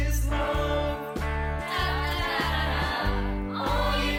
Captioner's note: male voices; female voices